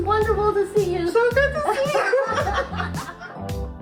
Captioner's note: laughs